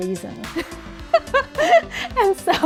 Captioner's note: laughter